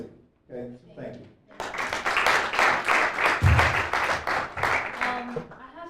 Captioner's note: applause